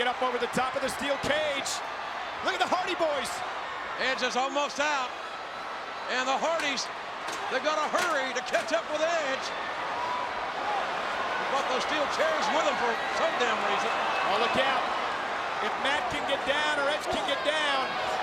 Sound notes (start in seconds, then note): 9.8 audience cheering